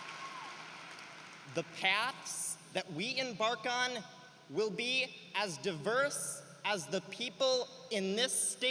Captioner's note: cheering and applause